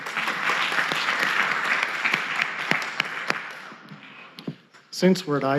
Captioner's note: applause